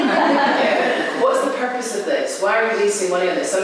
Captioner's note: laughter